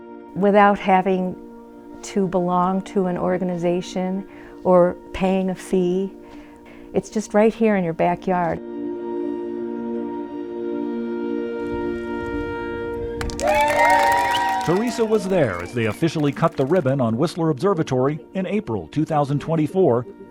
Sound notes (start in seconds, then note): 8.4 gentle music; 13.2 crowd cheering